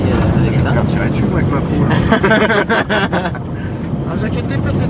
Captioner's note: laugh